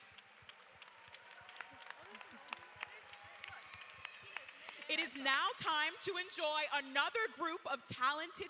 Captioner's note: applause